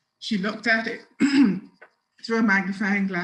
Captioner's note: clears throat